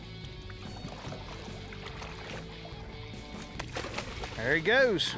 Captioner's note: water splashes